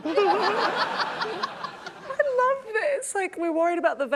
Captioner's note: laughter